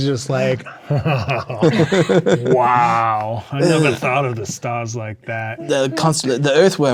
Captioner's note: laughing